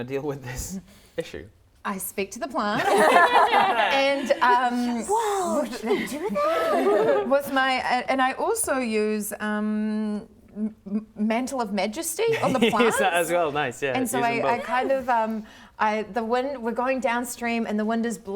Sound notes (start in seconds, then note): 2.8 laughter